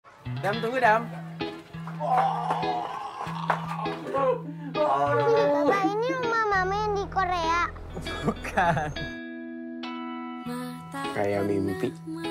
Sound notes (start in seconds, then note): 1.9 Bima exclaiming; 4.7 Adam giggling; 7.9 chuckles